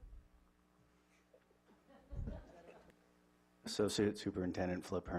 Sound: laughing

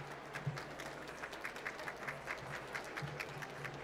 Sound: applause

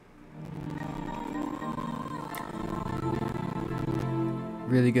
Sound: stuttery Windows """Longhorn""" shutdown sound

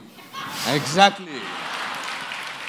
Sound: laughter & Applause

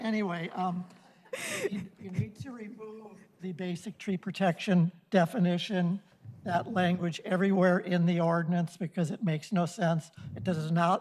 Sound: laughter

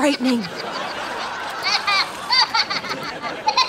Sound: laughing

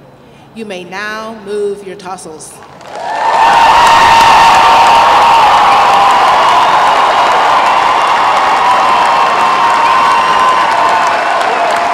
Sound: applause

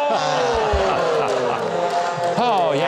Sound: crowd cheering

